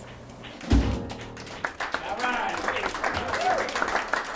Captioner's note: applause